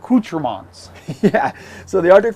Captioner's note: laughs